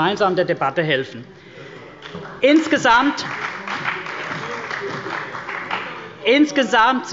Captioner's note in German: Beifall bei der CDU und dem BÜNDNIS 90/DIE GRÜNEN – Zurufe von der SPD